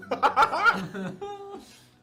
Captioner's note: laughter